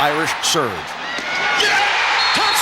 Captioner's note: cheering